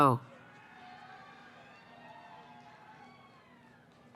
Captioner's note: cheering